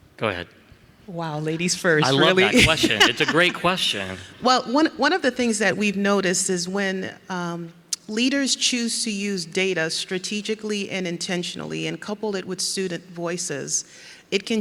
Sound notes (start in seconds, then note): 2.0 laughs